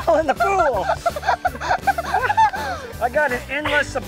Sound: laughing

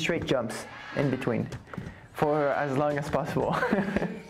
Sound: laughs

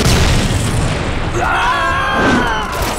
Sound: screaming

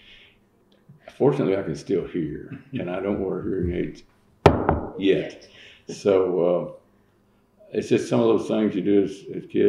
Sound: knocks on table

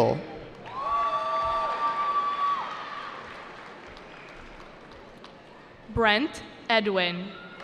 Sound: cheering

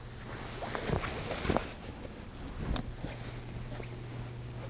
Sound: sheet rustling

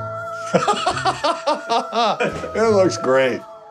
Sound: laughs

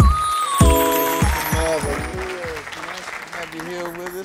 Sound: applause; upbeat music

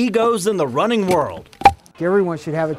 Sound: clunk

